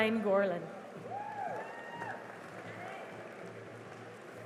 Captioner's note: cheering and applause